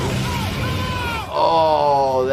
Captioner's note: creature roaring; intense, pulsing music; man screaming